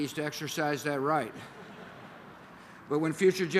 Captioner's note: laughter